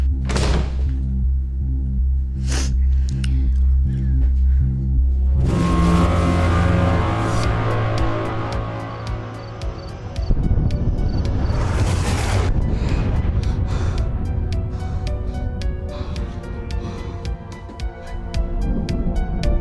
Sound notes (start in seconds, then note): 0.2 door slams; 2.4 Jack sniffles; 6.1 tense sinister music; 11.3 comet whooshes; 12.1 Jack gasps; 15.8 energetic sinister music